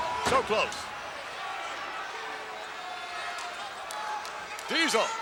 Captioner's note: crowd yelling